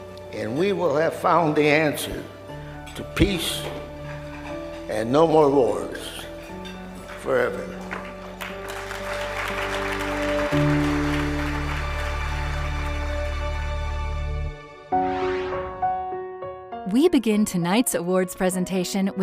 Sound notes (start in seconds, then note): 7.4 audience applauding; 15.6 soft music